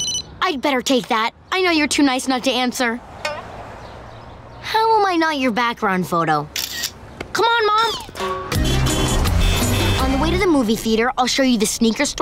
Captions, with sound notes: I'd better take that, I know you're too nice not to answer. How am I not your background photo? Come on, Mom. [horns honking] On the way to the movie theater, I'll show you the sneaker store